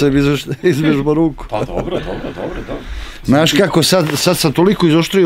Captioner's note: laugh